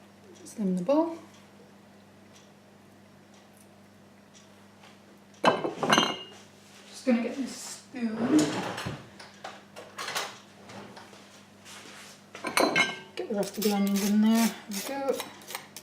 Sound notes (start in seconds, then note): 5.2 sieve clunks; 8.2 drawer opens and rummages